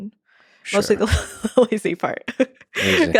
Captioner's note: laughs